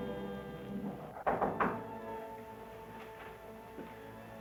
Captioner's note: knocking